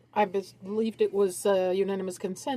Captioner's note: speaking French